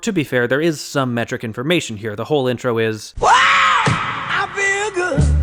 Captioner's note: bang